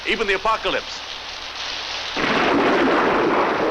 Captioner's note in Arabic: هدير الرعد